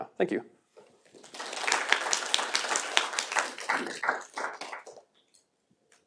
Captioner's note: applause